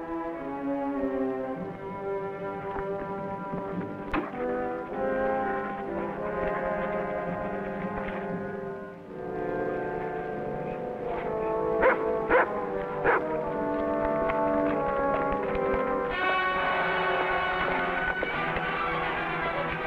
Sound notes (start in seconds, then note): 11.8 dog barks; 16.9 dramatic music